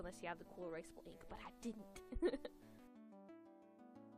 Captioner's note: laugh